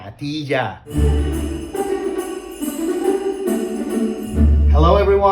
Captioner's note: sleigh bells; upbeat music